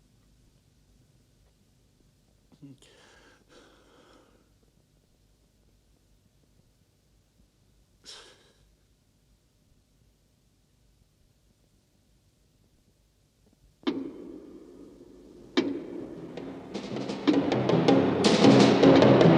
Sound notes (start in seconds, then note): 13.8 knock; 16.6 loud and aggressive Music